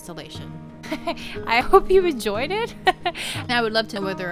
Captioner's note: laughter